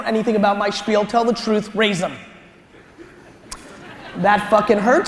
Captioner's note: audience laughter